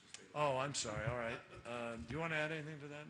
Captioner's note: laughter